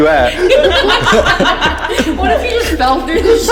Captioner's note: laughter